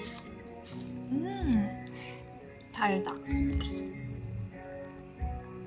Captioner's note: mmm~ sweet